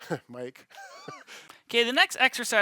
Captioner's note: laughing